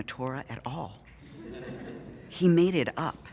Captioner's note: audience Laughing